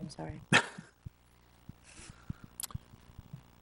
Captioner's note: chuckles